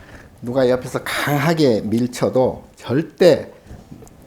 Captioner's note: speaking Korean